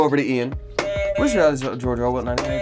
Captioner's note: buzzer honks